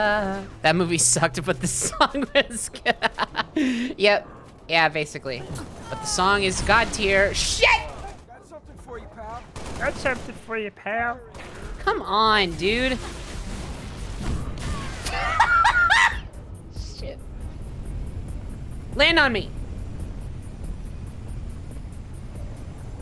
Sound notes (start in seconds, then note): 1.7 laughing; 10.1 goofy, Kermit-esque voice; 14.7 laughing